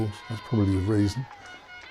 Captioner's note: crowd cheering; hooter honking